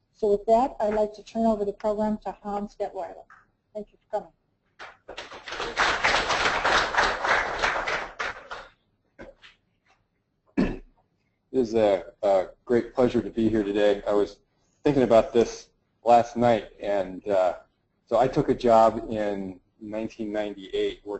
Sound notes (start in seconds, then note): 4.8 audience applauds